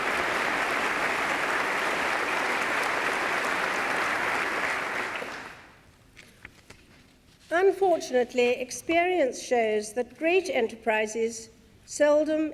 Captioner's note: applause